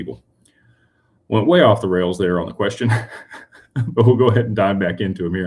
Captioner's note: laughter